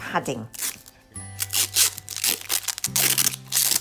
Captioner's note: masking tape scrunches